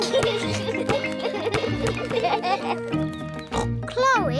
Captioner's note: youngsters giggle; oinks